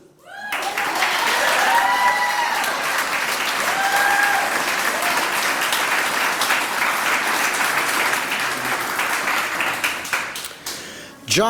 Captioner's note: applause